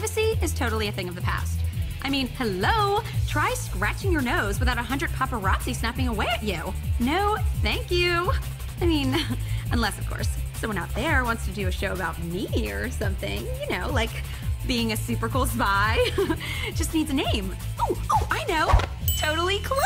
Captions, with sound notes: And, like, privacy is totally a thing of the past. I mean, hello! Try scratching your nose without a hundred paparazzi snapping away at you! No, thank you. [chuckles] I mean, unless of course, someone out there wants to do a show about me or something. You know, like being a super-cool spy... [chuckles] Just needs a name. Oh! I know!